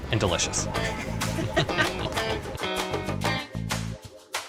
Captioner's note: both laughing